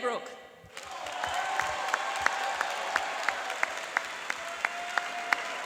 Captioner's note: cheering and applauding